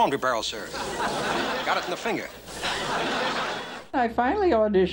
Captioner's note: audience laughs